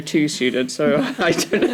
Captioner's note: laughter